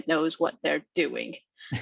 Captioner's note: laughs